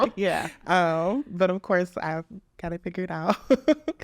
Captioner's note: laughs